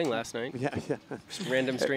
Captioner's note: laughing